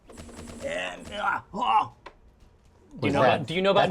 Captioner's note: straining